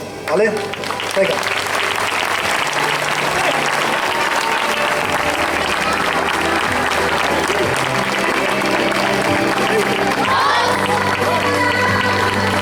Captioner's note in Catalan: Aplaudiments; Música cantada per una dona